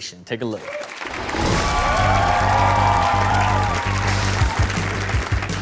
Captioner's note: crowd applaud and cheer